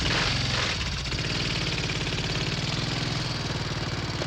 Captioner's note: motorcycle leaves